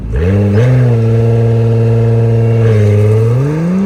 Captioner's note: car engine revving